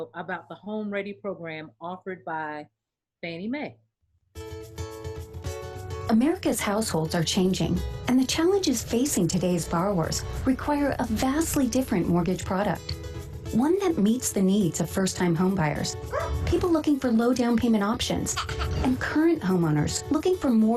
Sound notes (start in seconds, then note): 4.7 upbeat music; 16.1 dog barking; 18.2 child chuckling